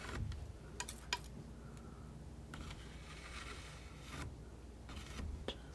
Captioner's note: scratching